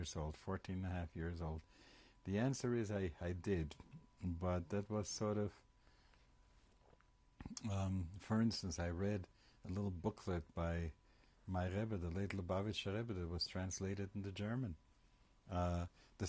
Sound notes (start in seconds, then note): 7.4 pauses for 3 seconds